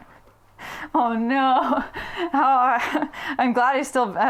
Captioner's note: laughs